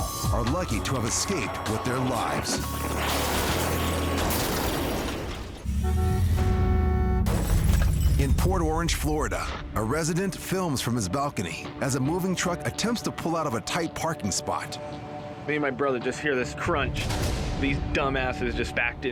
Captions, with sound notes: are lucky to have escaped with their lives. -[shattering] -[thudding] [car horn honking] In Port Orange, Florida, a resident films from his balcony as a moving truck attempts to pull out of a tight parking spot. >>Me and my brother just hear this crunch. These dumb asses just backed into a car.